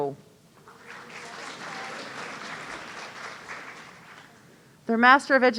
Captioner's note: audience applauding